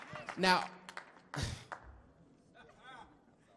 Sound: chuckles; man laughs

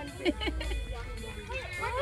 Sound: laughing

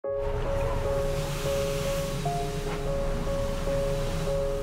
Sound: storm and wave sounds

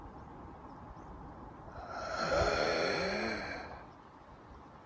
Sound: inhaling

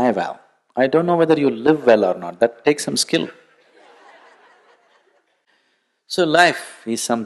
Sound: laughter

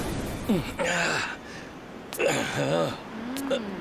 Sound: groans

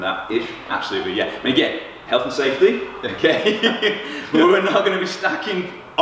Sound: laughs

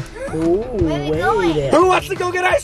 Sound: gasping

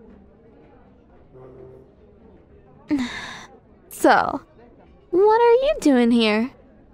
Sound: soft grunt

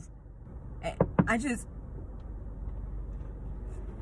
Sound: knock on window

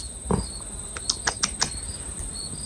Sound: tsk tsk tsk

